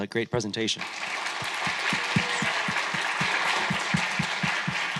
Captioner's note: attendees applauding